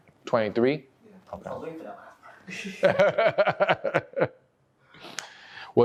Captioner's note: laughs